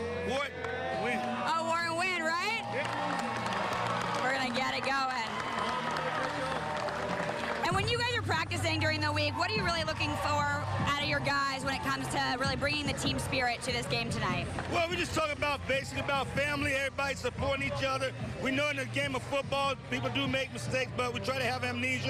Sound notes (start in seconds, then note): 7.5 cheering